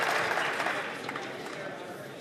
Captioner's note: some Applause